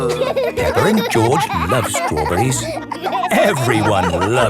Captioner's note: laughing; groaning